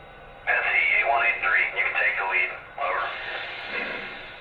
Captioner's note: voiceover